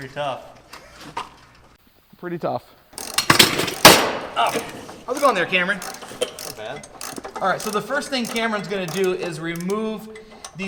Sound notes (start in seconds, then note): 3.3 loud crashing; 5.0 ratchet clicking